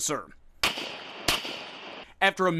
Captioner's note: gun shots